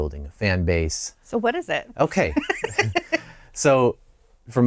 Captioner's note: laughter